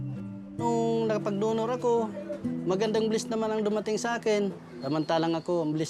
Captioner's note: speaks in foreign language